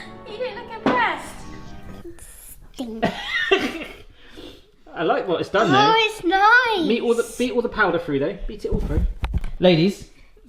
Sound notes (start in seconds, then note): 3.0 laughs; 4.0 sniffing